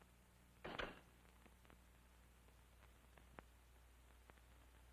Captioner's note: door clicking